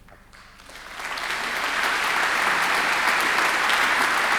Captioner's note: applause